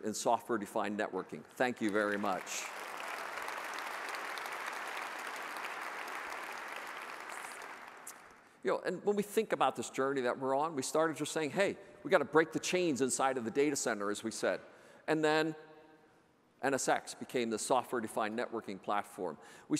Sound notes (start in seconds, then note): 1.7 audience applauds